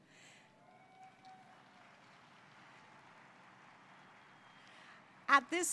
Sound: applause and cheers

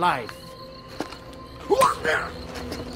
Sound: sound of pain

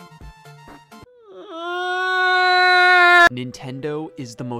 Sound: Scott whines

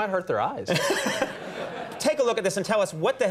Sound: Conan chuckles

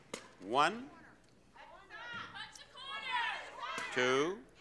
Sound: audience yelling

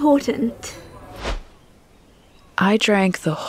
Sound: transitional whoosh

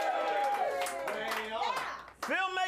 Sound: audience cheering

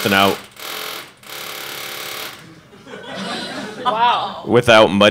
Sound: object cackling

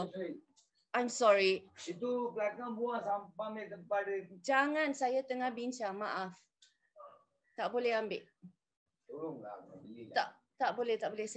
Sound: conversation off-camera

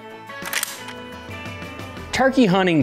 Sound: gun cocking

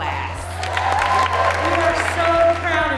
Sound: audience cheering

